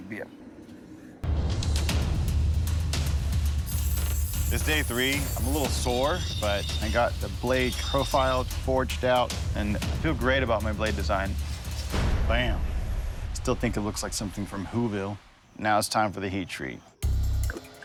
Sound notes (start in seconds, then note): 2.8 whirring